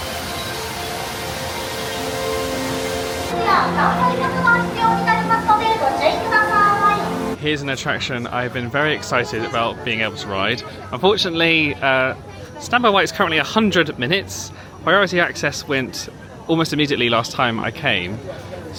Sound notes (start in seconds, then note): 0.0 bright music; 0.7 water whooshing; 3.6 cast Member speaking in Japanese